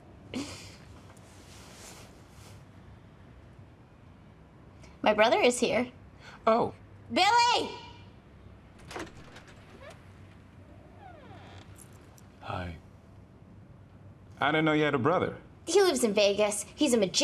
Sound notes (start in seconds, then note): 8.3 door opening, squeaks